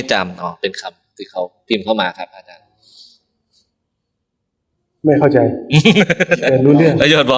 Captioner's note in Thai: เสียงหัวเราะ